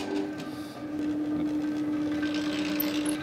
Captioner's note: quiet rattling